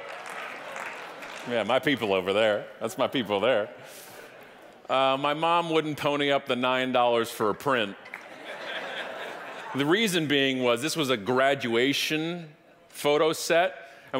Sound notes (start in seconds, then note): 0.0 audience applauding; 8.0 audience laughing